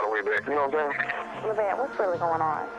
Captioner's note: on phone